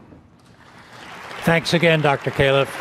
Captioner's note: audience applauding